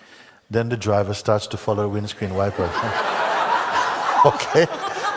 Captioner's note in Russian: смех в зале